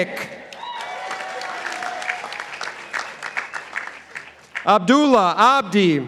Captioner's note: participants applauding